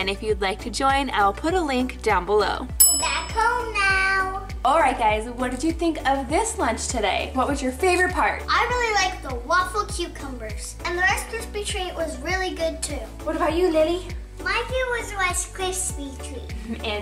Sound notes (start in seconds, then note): 2.8 bell dings